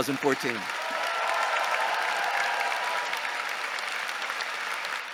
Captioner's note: audience cheering